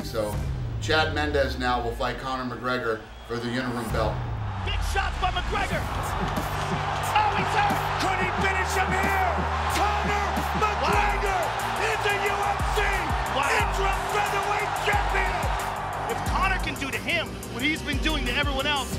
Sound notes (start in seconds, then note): 5.8 crowd roars